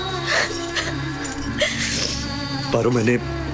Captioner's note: Crying